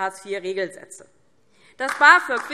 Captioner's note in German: Beifall DIE LINKE und vereinzelt SPD